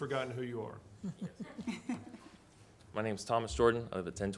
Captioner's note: laughing